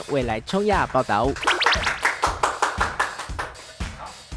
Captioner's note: there's an extra strong applause XD